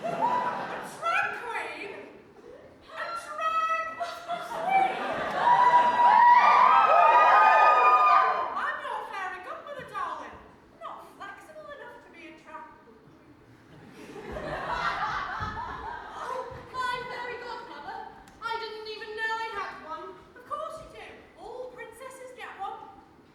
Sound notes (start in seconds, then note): 4.6 audience cheers; 13.6 audience laughs